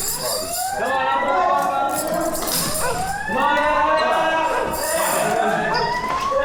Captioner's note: alarm ringing